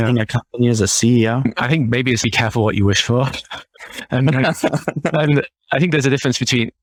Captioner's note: laughing